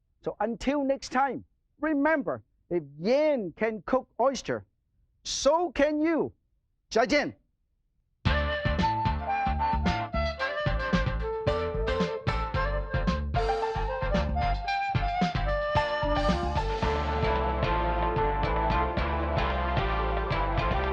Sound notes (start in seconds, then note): 6.7 speaking foreign language; 8.3 upbeat harp music